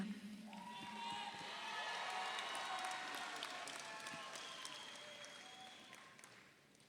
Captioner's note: audience cheers; audience applauds